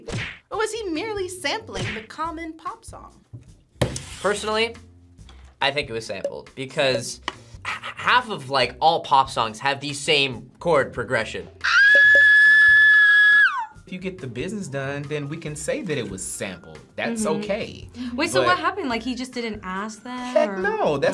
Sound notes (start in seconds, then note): 11.6 screams